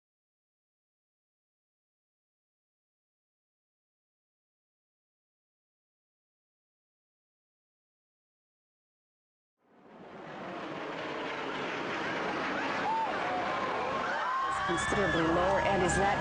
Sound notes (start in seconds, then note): 9.7 airplane whooshing; 13.1 people screaming